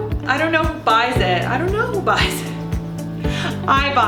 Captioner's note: laughs